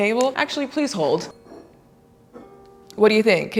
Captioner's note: soft metal clacking